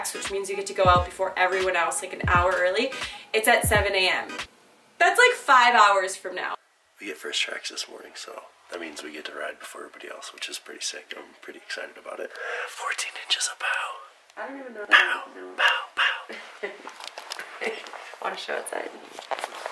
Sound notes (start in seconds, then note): 16.1 laughs